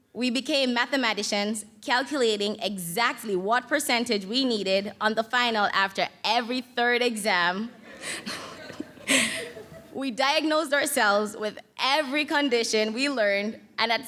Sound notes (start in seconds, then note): 7.8 audience laughs